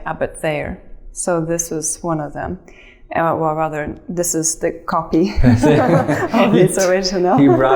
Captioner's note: chuckles